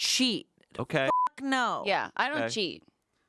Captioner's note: beep